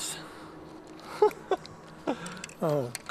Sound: laughter

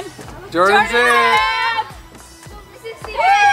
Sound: in Unison

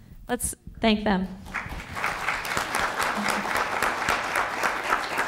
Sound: applause

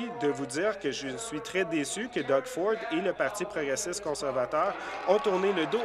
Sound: applause

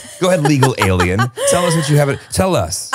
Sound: laughing

